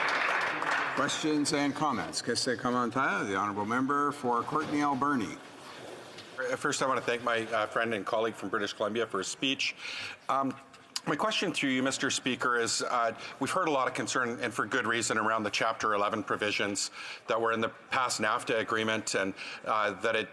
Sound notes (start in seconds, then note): 0.0 some Applause; 6.3 speaking French